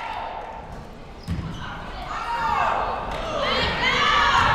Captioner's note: players yelling